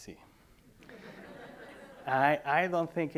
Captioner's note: audience laughing